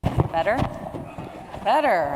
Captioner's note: audience agreeing